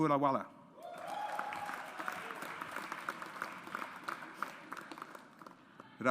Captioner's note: audience applauds